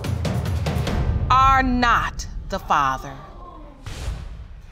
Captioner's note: audience groans